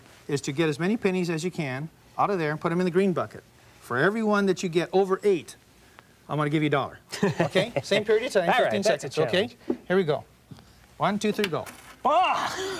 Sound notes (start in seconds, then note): 7.1 laughing